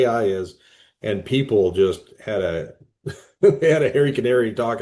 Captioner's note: laughs